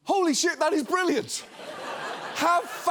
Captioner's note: studio audience laughing